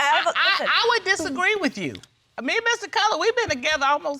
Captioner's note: stuttering